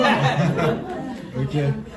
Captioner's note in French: rires